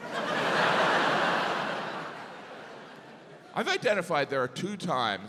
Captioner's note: audience laughs